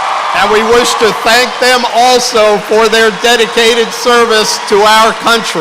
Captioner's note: applause